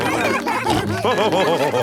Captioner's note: all cheering; laughing